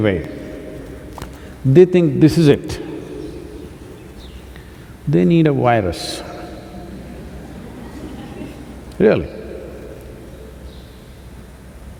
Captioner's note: laughter